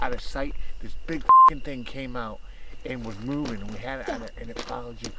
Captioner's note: beep